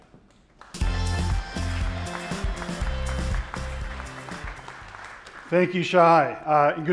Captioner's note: audience clapping; upbeat music